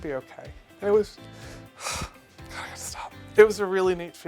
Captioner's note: sighs